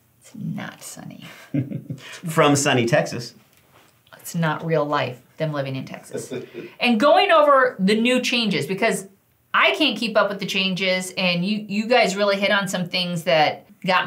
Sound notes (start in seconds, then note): 1.5 laughing